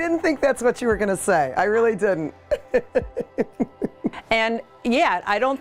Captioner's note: laughs